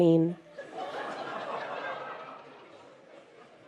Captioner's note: laughter